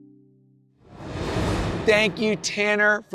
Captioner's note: transition whooshes